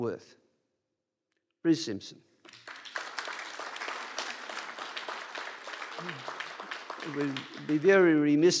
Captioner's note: applause